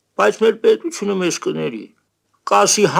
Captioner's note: none